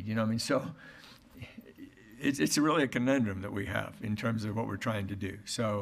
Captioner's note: none